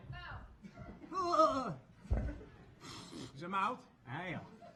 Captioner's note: Specimen moaning